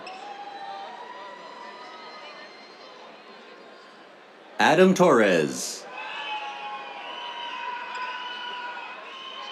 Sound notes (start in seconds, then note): 0.0 cheers; 5.9 cheers, whistles